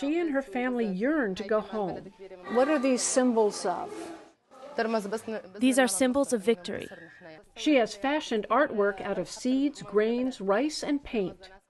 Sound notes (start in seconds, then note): 5.1 through translator